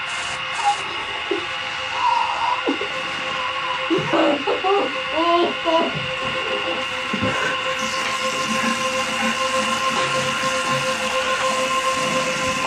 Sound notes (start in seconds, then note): 0.2 unsettling music; 3.8 Billy crying; 7.9 unsettling music continues